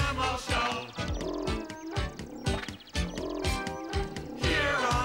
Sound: animal noises

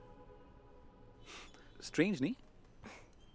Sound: scoffs

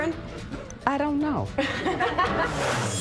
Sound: laughs

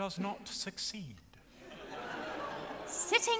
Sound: audience laughs

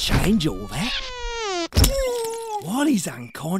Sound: whack

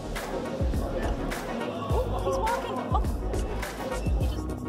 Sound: crowd chatters

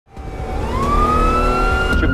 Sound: sirens wailing

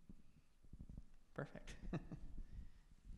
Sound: laughs

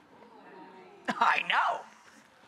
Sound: audience moans

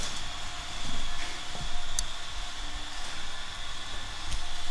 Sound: hammering and sawing noises in the background

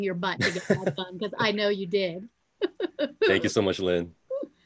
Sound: laughing

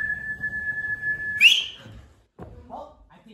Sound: loud Whistle; low whistle

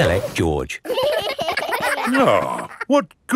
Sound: giggling

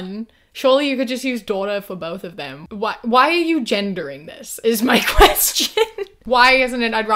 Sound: laughs

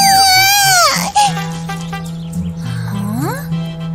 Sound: crying

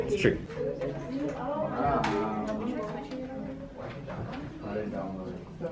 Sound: class discussion

